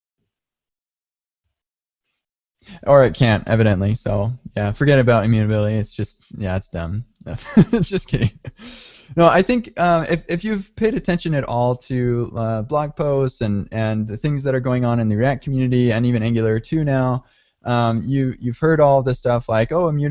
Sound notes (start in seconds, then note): 7.3 laughing